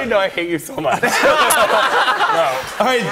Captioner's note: laughter